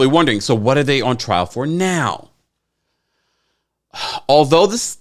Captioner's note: sighs